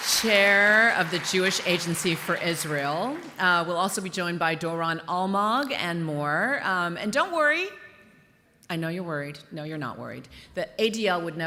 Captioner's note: applause